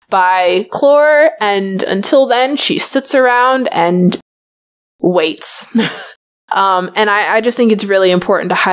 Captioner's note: laughs